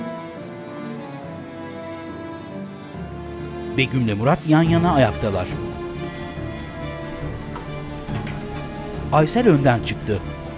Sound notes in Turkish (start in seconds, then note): 4.6 Asansör kat sinyali; 7.3 Müzik - Gerilim